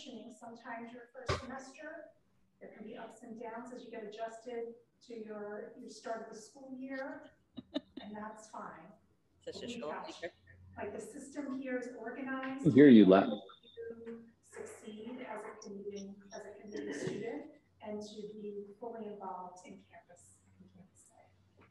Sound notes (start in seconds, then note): 7.6 woman laughing